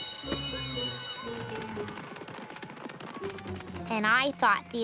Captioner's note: ringing; continues ringing